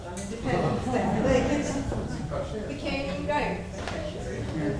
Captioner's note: audience talking